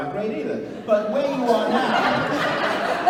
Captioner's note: laughing